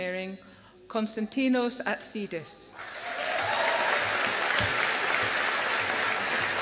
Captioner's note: audience applauding